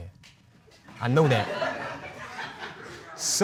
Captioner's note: audience laughs